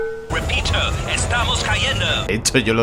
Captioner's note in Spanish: radio